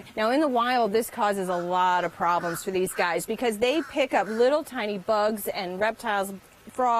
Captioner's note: laughs